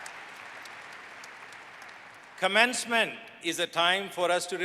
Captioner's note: applause